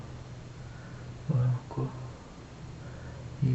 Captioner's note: foregin language